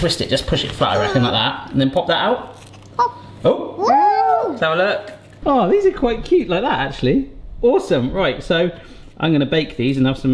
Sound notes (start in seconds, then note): 4.5 cheering